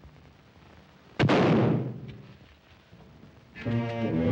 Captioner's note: rifle fires; ominous music